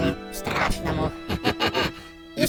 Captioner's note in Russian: Злодейский смеётся